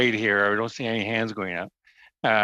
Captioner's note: chuckles